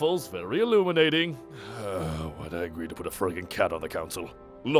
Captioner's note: groans